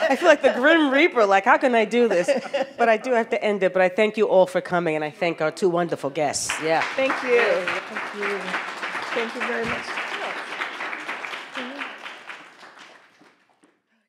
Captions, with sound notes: I feel like the Grim Reaper, like how can I do this? But I do have to end it, but I thank you all for coming. And I thank our two wonderful guests, yeah. - Thank you, thank you. (audience applauds) Thank you very much.